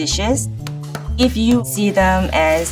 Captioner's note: rolling pin thuds